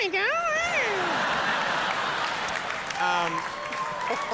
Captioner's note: audience laughing